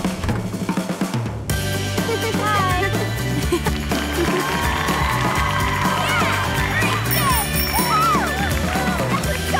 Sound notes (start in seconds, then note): 3.4 applause